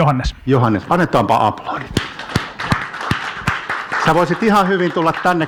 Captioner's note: audience applauding